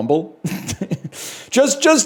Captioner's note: chuckles